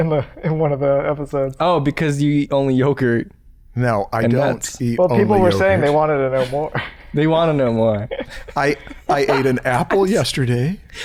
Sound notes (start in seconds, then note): 7.8 laughter